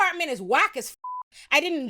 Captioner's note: beep